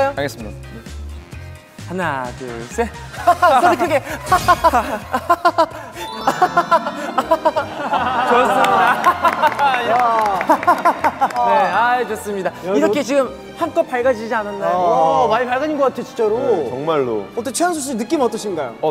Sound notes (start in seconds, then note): 11.5 laughter spreads throughout the studio